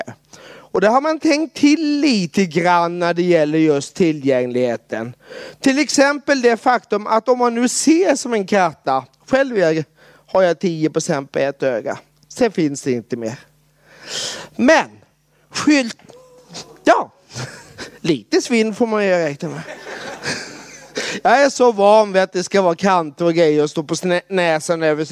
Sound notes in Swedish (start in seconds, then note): 19.5 Skrattar